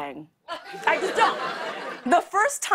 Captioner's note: laughter